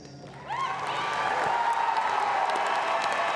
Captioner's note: applause